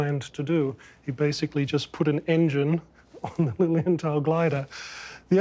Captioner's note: chuckles